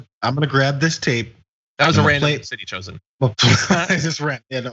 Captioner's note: laugh